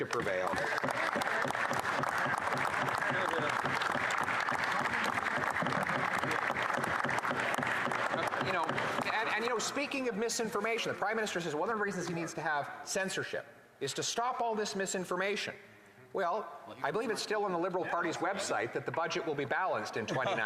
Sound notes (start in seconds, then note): 6.4 applause